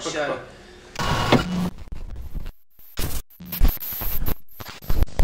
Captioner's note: static noise